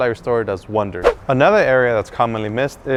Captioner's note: whoosh